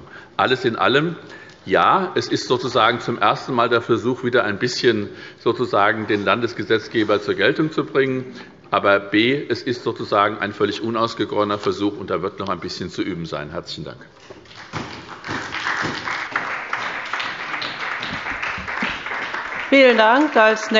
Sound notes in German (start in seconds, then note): 14.4 Beifall bei der SPD